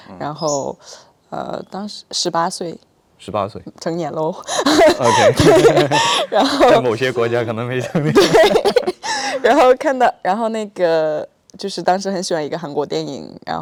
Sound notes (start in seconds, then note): 4.4 laughs; 4.4 more laughing; 8.2 laughs